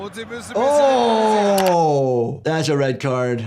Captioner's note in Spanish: clics del ratón